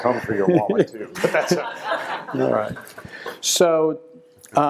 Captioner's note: audience laughs